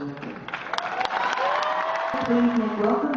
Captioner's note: applause